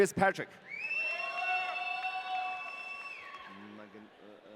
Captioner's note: audience cheering